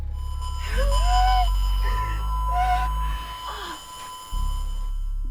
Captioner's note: speaker static whistling